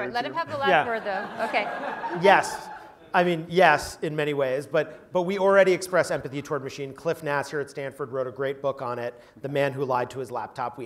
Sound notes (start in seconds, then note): 0.4 laugh